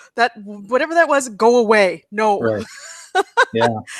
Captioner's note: laughs